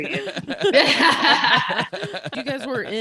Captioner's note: laughing